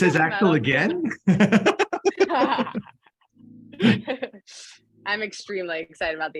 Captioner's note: laughter